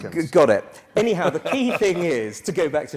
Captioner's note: laugh